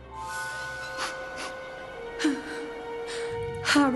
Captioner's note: sobbing